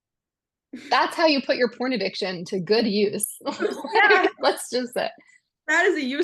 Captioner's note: laughs